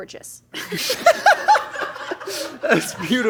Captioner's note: laughing